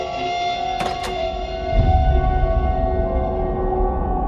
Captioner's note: door thudding